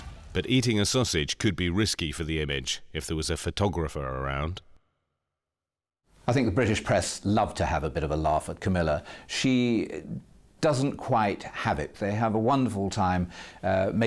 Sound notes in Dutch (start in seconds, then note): none